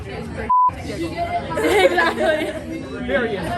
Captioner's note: laughs